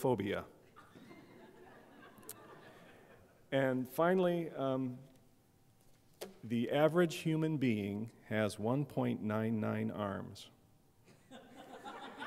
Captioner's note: laughter